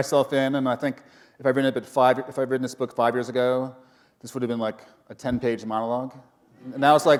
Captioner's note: laughter